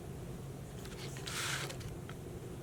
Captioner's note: paper rustling